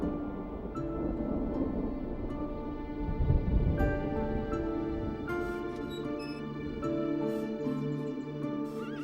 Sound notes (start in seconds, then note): 5.2 metal creaks; 7.3 birds chirping